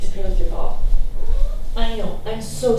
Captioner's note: cat meows